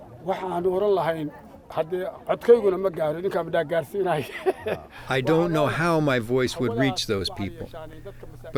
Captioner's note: through translator